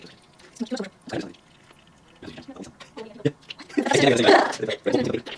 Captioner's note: speech speeded up